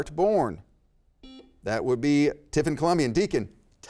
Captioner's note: buzzer beeps